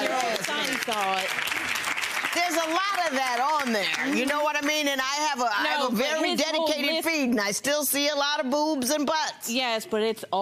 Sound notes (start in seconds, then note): 1.7 audience applause drowns out